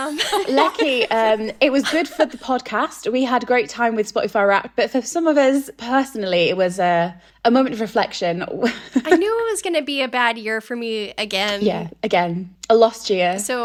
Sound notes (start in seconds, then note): 9.0 laughing